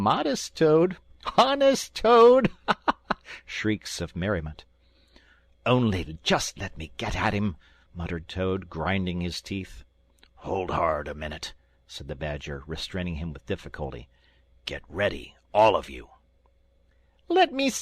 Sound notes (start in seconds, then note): 0.0 great laughter; 2.5 shrieks of merriment